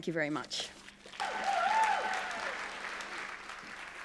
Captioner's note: cheering